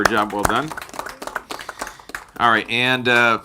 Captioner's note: clapping